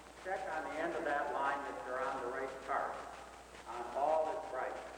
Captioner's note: director speaks distantly